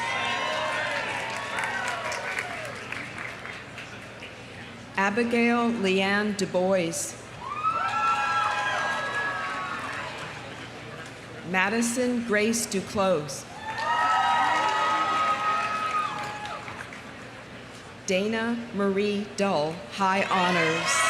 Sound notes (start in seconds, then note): 0.0 audience cheering; 0.0 audience applauding; 7.4 audience cheering; 7.7 audience applauding; 15.9 audience applauding; 15.9 audience cheering; 20.4 audience cheering; 20.9 audience applauding